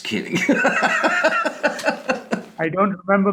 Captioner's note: laughing